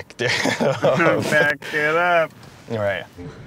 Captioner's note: laughing